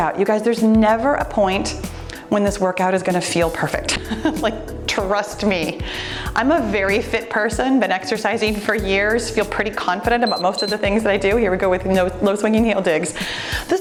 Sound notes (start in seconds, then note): 10.2 timer beeps